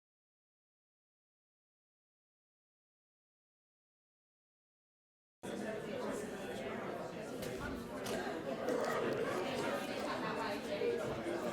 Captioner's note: background conversations